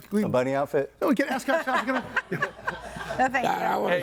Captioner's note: audience laughing